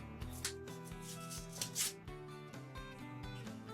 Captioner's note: paper ripping